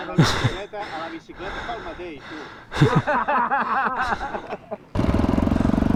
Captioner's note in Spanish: risas